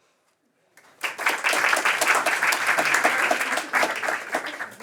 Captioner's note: applause